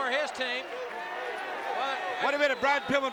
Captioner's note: applause